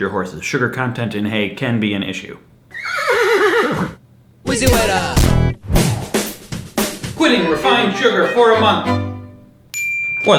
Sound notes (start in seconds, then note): 2.7 neighs; 5.1 beard intro; 7.1 violins; 9.7 ping